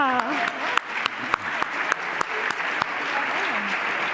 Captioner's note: applause